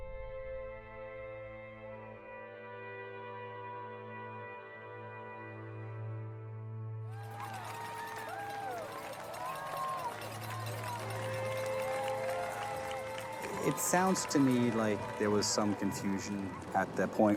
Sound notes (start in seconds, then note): 8.5 cheering